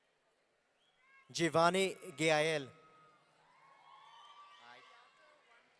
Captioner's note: audience cheering